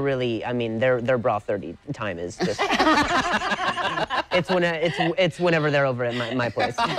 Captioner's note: laughter